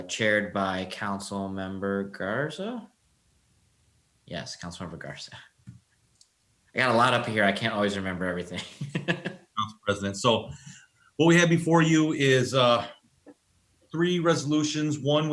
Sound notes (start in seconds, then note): 8.5 laughs